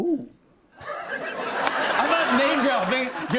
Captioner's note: laughter